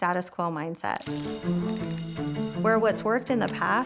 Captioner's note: bell ringing